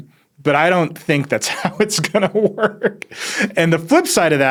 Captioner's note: laughs